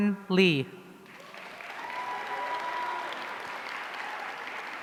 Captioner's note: audience cheering